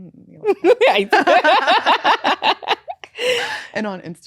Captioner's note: both laughing